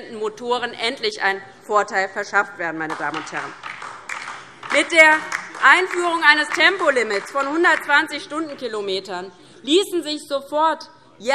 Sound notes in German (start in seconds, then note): 2.8 Beifall DIE LINKE